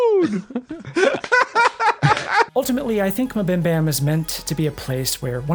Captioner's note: laughs